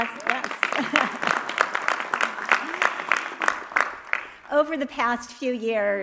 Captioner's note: audience applauding